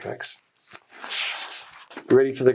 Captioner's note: paper scraping